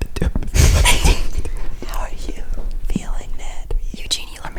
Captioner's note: mouth noises